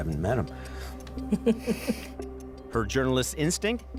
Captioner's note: chuckles